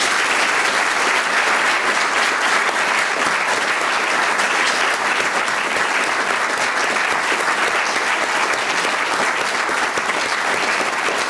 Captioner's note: applause